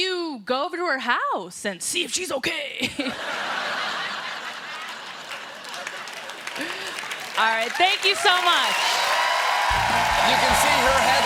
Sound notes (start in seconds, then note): 4.5 applause; 9.1 cheers and applause